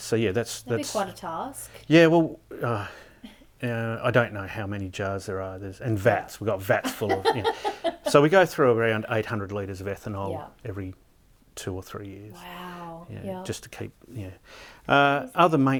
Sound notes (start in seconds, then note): 2.5 sighing; 6.8 laughing